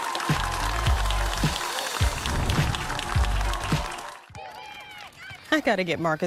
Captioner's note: applause